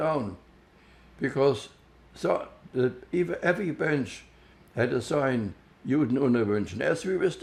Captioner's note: german